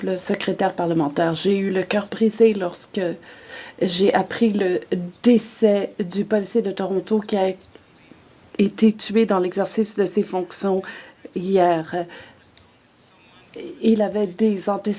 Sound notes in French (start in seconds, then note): 4.7 voix de l'interprète